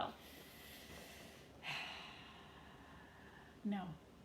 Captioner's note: sighing